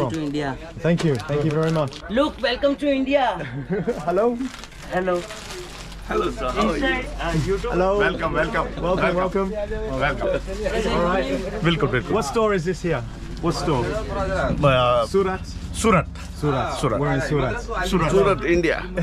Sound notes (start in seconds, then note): 3.4 laughing